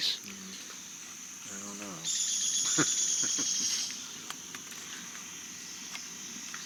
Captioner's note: laughs